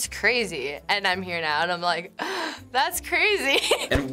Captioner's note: gasps